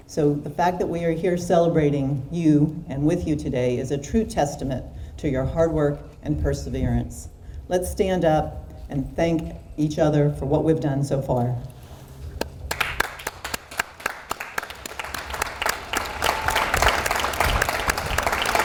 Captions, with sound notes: So the fact that we are here celebrating you and with you today is a true testament to your hard work and perseverance. Let's stand up and thank each other for what we've done so far. (audience applauds)